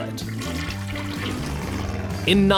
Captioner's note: toilet flushes